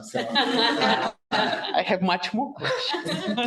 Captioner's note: audience laughing